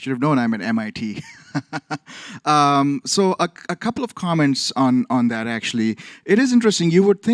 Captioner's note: laughs